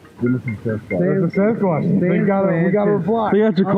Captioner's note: phone rings